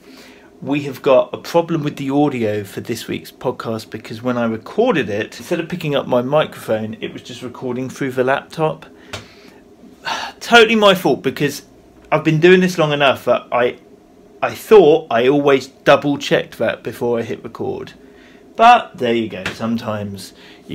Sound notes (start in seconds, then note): 10.0 sighs